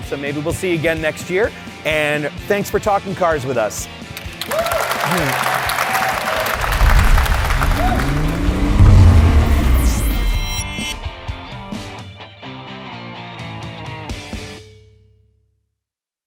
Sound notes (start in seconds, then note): 4.1 applause; 6.0 rock music